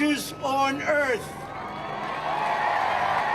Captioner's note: cheering and applause